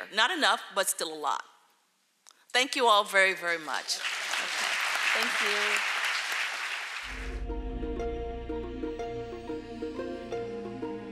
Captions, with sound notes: Not enough, but still a lot. Thank you all very, very, much. (audience clapping) Thank you. (upbeat music)